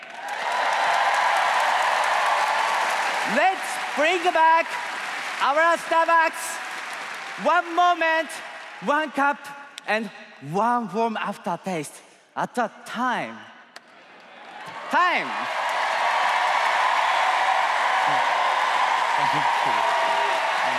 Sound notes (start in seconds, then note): 8.5 applause